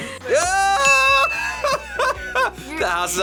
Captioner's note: laughs